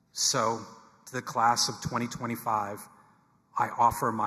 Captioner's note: none